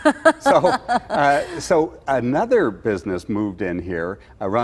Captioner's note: laughter